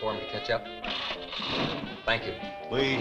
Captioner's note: engine rumbling